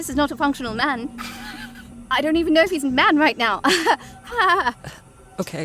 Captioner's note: chuckles nervously